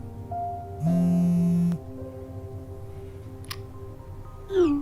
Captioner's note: phone buzzing